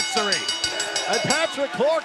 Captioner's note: bell ringing